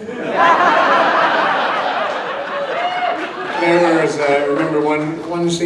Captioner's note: audience laughs and cheers